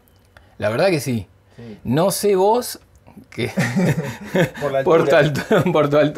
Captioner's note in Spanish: risas